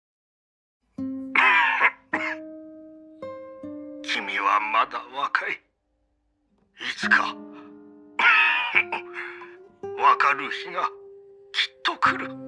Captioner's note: coughing